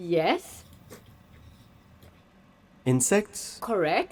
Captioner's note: pen scratching